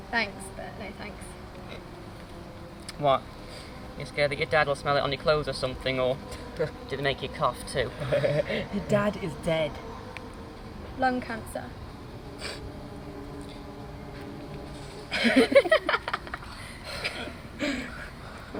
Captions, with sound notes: - Thanks but no thanks. - What. You scared that your dad'll smell it on the clothes or something or. dos they make make you cough too? (laughs) - Her dad is dead. - Lung cancer. (Noah and Mia laugh)